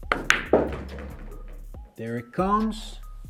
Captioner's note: upbeat music continues; ball bangs